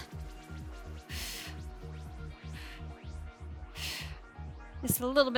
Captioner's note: upbeat music; breathing heavily